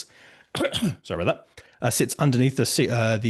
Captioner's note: coughs